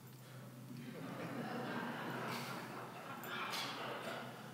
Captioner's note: audience laughs